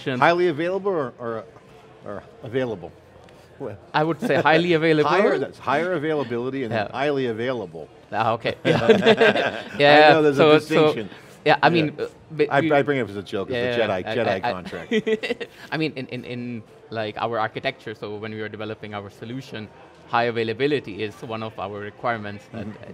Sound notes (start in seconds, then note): 8.6 both laughing; 14.7 laughs